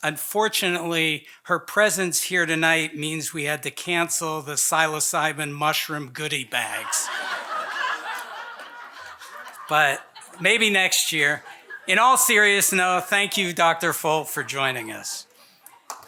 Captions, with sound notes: Unfortunately, her presence here tonight means we had to cancel the psilocybin mushroom goody bags. (audience laughing) But maybe next year, in all serious though, thank you Dr. Folt, for joining us.